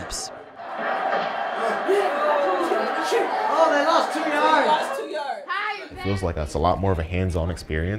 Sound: cheering

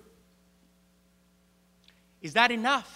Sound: <i>Brief pause</i>

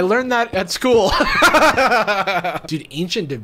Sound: laughs

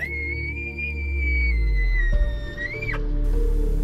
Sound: elk bugles

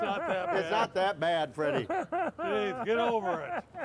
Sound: fake cries

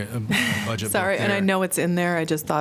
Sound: laughter

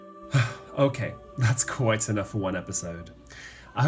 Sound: sighs

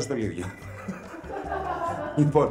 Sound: laughs

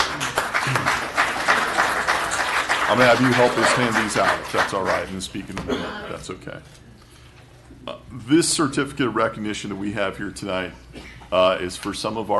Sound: applause

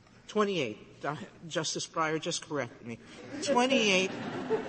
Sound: laughter

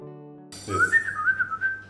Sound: whistling

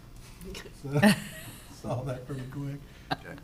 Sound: councilors chuckling

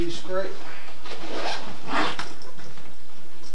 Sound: bag zipper

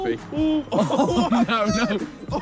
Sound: all laughing

